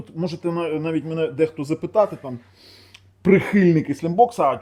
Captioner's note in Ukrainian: сопіння